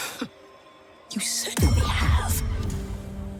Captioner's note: whispers